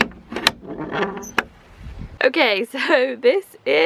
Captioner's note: bolt being pulled